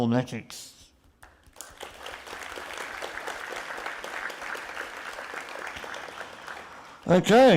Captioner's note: applause